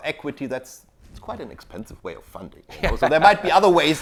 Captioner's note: laughs